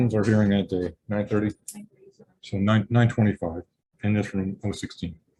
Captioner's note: committee chatter